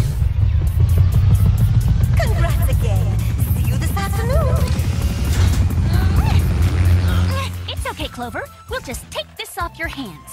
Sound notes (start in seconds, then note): 5.8 Alex and Clover grunting